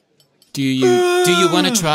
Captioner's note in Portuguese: Yawns em voz alta